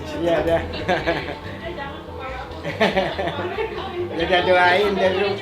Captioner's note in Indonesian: tertawa